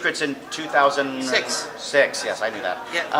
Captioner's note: all laugh